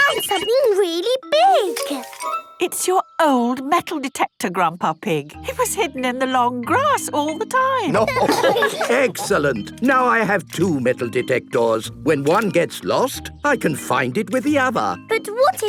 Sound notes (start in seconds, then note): 7.8 laughter